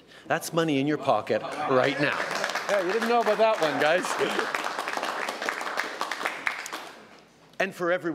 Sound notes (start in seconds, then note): 1.7 applause